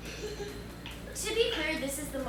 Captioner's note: laughs